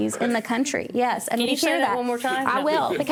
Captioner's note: laughter